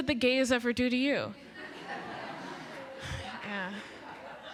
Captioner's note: laughter